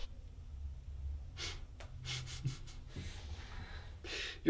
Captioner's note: laughs